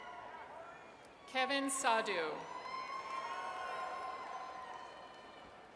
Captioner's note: audience cheers